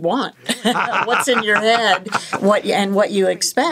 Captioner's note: laughing